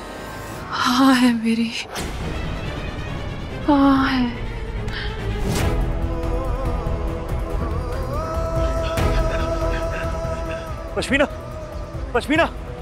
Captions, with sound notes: I give my consent. I give my consent. [tense music playing] [laboured breathing] Pashminna! Pashminna...